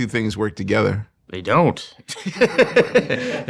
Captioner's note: laughing